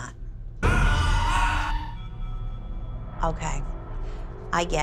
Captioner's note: echoing shouting